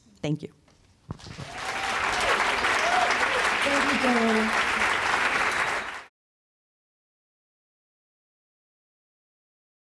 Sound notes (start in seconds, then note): 1.2 applause